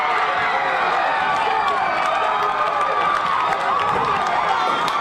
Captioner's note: crowd screaming